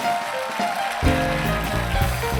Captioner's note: applause